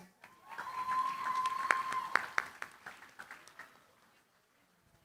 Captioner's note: cheering, applause